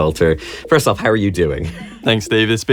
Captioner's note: chuckles